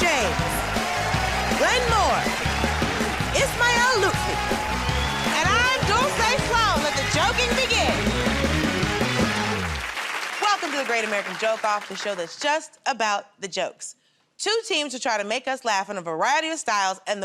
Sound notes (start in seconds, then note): 7.8 cheers and applause